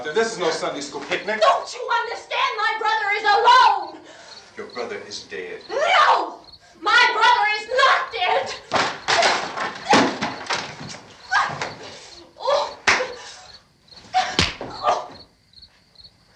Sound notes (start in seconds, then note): 10.4 shouts; 14.0 groans